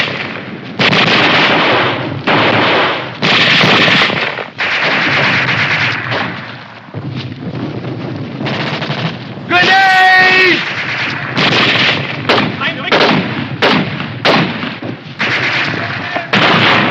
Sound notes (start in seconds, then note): 11.7 soldier speaking in german; 15.6 grenade explodes